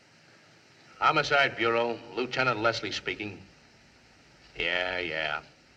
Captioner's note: in Lower Voice